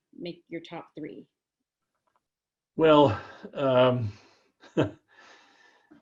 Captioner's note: laugh